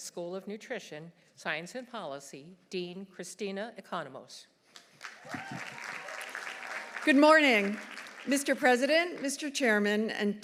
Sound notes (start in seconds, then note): 5.0 audience applauding; 5.1 audience cheering